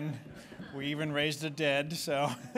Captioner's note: laughter